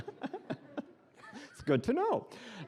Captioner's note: laughing